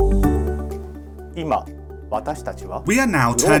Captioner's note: speaks in Japanese